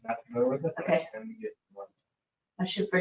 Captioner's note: speaking faintly